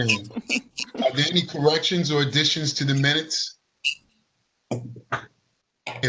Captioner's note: laughter